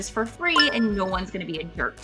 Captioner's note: retro gaming beep sound